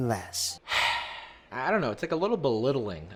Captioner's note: sighs